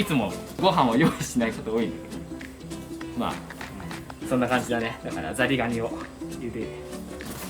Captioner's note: laughs